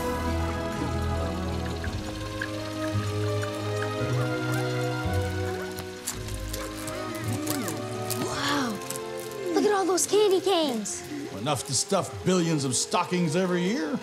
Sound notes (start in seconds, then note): 5.6 Bjorn munching